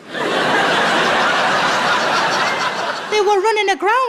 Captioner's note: laughing